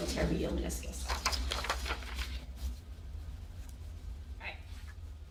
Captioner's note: paper rustling